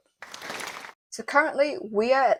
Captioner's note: applause